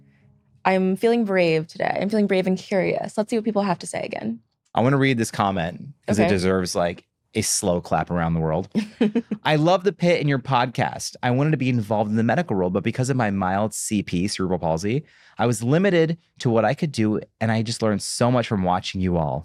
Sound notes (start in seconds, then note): 8.7 laughs